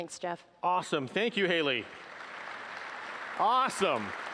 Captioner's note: applause